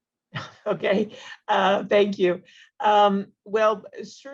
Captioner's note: laughs